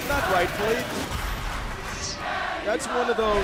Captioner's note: fans chanting